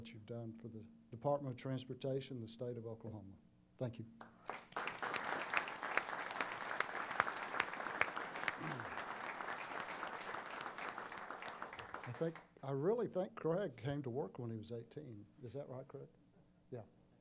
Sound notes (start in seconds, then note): 4.2 applause